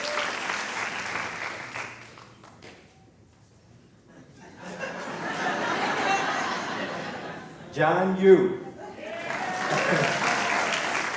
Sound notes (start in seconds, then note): 0.0 applause; 5.9 minor laughter; 10.9 applause